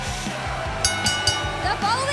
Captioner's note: bell ringing